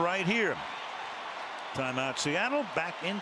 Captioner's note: cheering